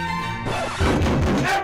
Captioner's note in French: disque rayé